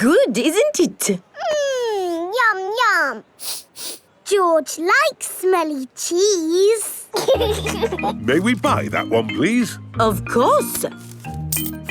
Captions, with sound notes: Good, isn't it? Mmm! Yum, yum! -(SNIFFS) -George likes smelly cheese! (LAUGHING) May we buy that one please? Of course!